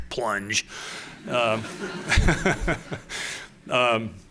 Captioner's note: laughter